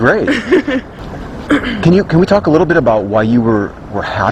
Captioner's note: clears throat